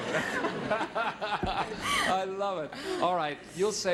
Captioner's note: laughing